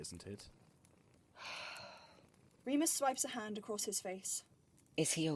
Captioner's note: Remus sighs